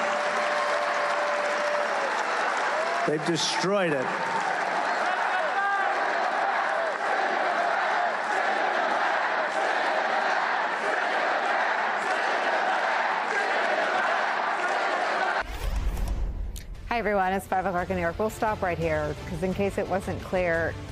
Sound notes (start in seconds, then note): 15.0 crowd chanting